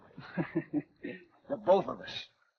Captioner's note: Ben chuckles